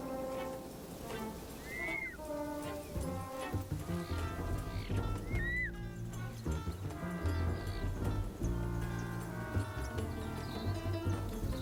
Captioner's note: chick shrieking